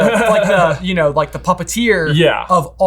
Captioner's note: chuckles